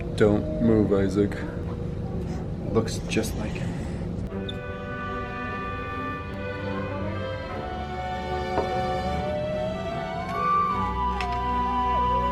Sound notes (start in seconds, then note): 4.2 inspiring music; 8.8 playful humming